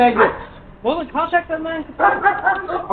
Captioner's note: unintelligible squeals